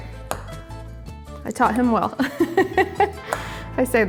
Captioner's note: laughs